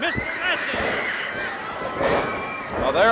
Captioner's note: audience cheering; floor banging